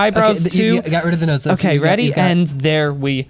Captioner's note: pat